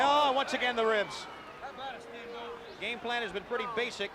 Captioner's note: crowd chatter